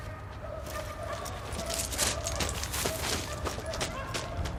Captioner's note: barking continues